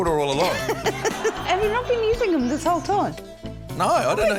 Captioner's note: laughs